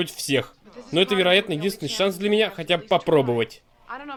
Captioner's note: none